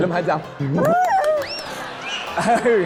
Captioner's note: clapping